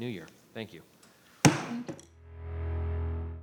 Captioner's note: gavel banging